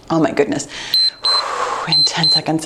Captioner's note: timer beeps